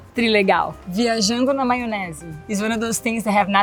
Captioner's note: speaks Portuguese